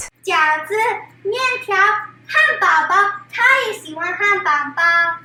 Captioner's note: speaks in foreign language